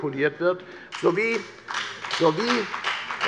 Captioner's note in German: Beifall bei der FDP